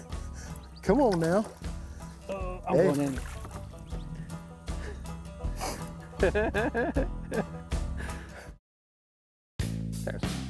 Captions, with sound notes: Come on, now.. -Oh I'm going in.. [laughing]